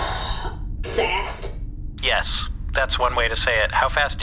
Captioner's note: heavy sigh